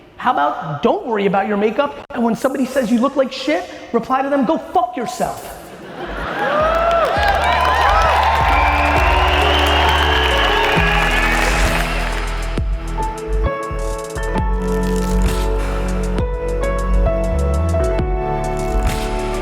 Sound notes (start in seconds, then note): 5.6 audience laughing and cheering; 8.9 instrumental music